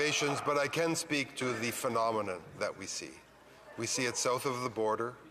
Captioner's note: laughter